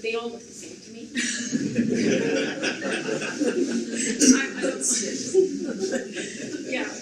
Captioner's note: audience laughs